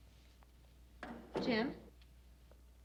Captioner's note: door thuds